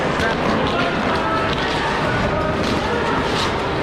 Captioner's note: skating sounds